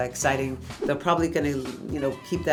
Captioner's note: air whooshing